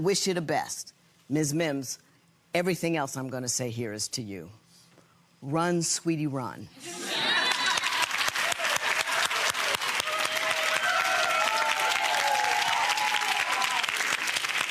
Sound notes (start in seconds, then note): 7.0 audience applause